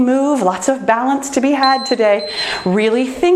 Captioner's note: timer beeps